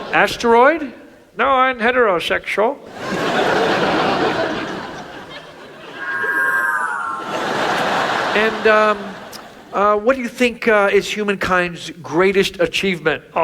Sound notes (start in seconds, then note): 3.0 audience laughs; 5.8 whooshes; 7.2 audience laughs